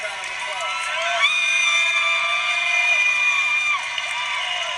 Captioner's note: congregation screams